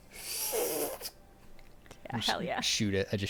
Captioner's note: slurping